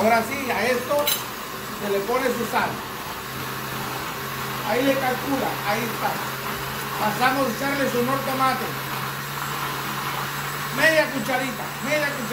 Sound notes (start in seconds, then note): 1.8 blender